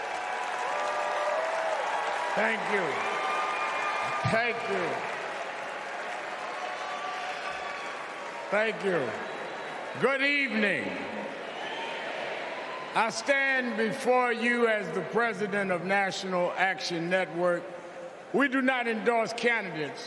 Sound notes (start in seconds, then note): 7.3 cheers and applause; 11.3 applause